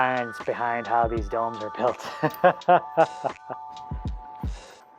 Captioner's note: laughs